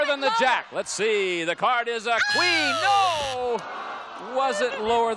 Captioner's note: audience moans